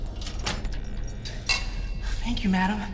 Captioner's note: lock clicking